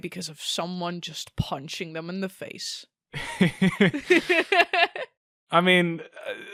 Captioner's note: both laugh